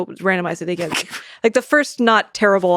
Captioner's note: Lex laughing